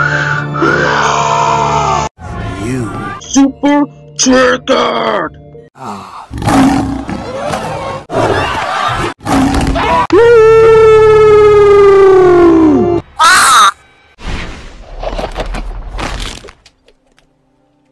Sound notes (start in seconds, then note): 0.0 Roars & Banana Screams; 8.2 panicked Screaming; 9.3 roars